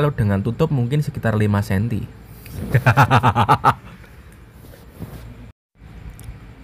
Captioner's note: laughs